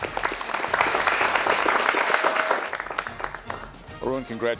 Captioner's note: applause